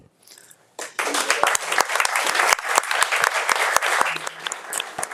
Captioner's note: audience applauding